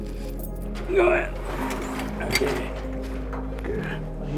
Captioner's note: grunting